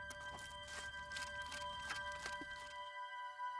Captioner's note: scraping